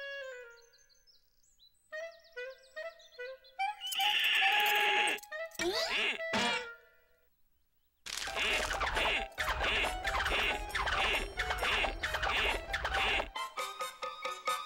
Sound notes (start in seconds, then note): 4.0 horse neighs; 9.1 horse grunts